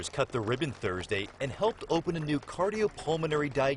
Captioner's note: applause